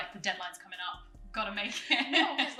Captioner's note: laughs